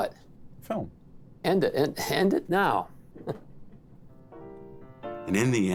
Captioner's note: chuckles